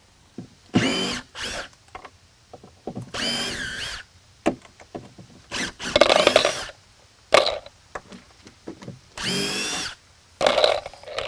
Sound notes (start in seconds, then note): 1.3 drill whirring